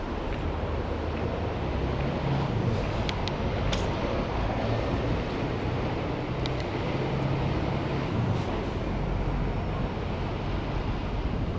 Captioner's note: wind Blowing